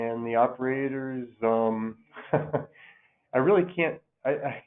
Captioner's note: laughs